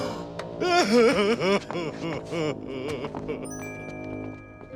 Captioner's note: sobbing